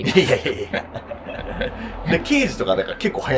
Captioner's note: laughing